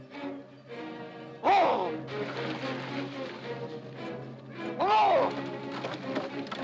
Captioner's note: ominous music; Mowgli roars mockingly